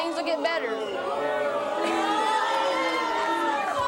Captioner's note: booing